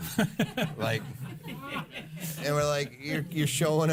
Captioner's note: laughing